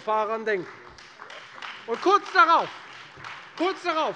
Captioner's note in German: Beifall Freie Demokraten und vereinzelt AfD